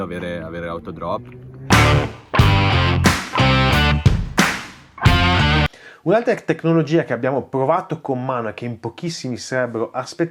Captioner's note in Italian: Applauso